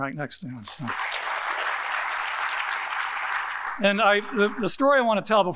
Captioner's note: audience applauding